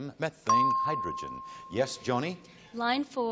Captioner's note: ping